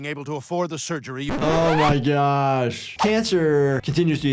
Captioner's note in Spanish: rayado del disco